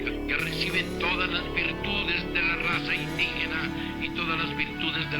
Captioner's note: person speaking Spanish